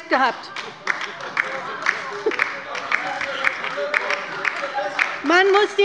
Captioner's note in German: Beifall bei der LINKEN - Zurufe von der CDU und der LINKEN